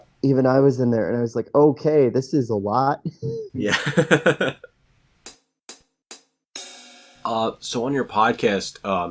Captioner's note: drum transition repeats; laughs